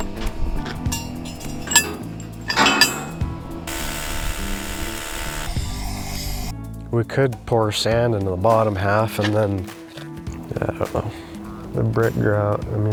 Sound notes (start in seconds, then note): 4.0 tool buzzing